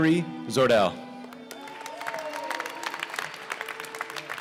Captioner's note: applause